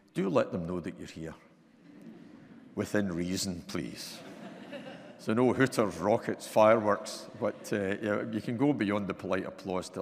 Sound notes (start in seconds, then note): 4.1 audience laughing